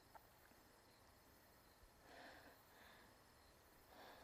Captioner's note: insects chirping